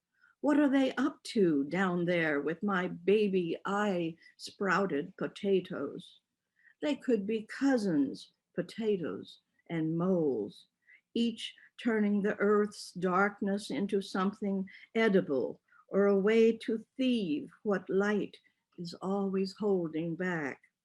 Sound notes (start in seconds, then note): none